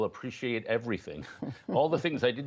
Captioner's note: laughter